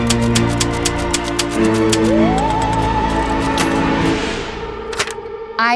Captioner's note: typewriter clacking; gentle music